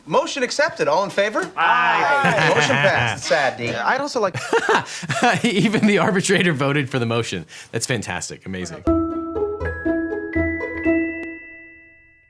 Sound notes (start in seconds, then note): 1.6 lawyer laughs; 4.3 laughing; 8.8 light hearted music